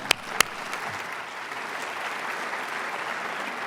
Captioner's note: applause